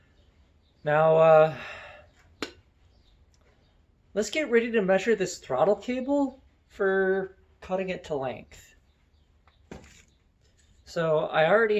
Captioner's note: sigh